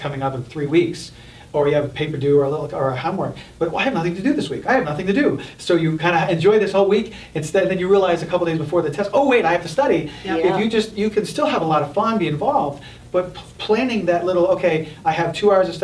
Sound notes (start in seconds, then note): none